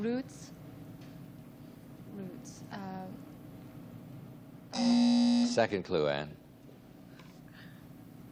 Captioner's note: buzzer